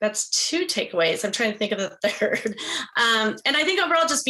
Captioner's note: chuckles